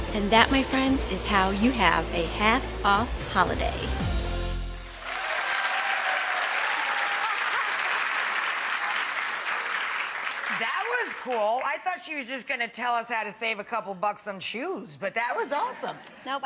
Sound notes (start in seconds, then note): 3.9 wordless choral music; 4.9 audience applauding